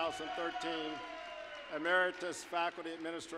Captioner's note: applause, cheering